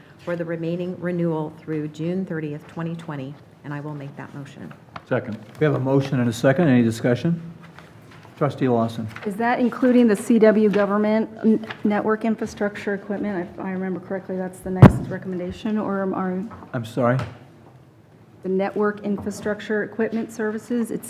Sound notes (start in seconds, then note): none